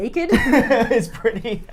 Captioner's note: laughs